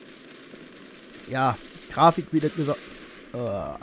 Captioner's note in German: Stöhnen